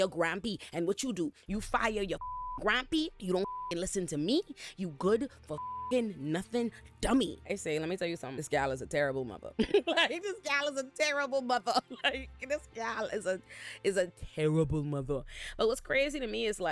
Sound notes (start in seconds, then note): 2.1 beep; 5.5 beep; 9.6 laughs